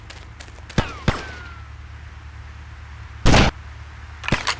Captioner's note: gun fires; gun fires